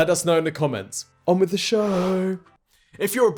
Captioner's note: swoosh